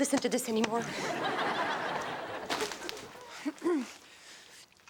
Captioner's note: audience laughs